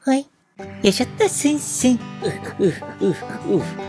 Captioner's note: sound of smelling